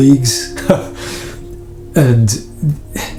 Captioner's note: laughs